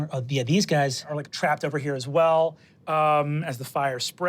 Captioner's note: none